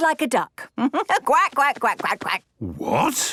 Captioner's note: quacks